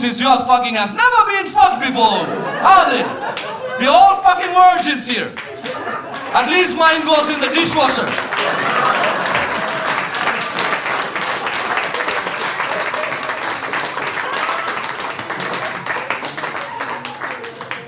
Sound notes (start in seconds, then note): 9.0 audience applauding